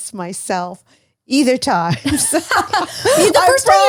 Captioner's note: laughs